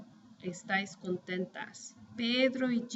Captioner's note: speaking spanish